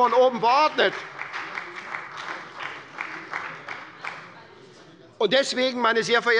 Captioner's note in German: Beifall bei der SPD